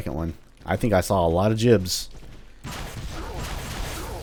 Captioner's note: moar fwooshing